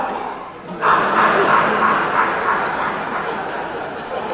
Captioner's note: cackles